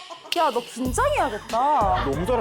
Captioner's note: in a serious tone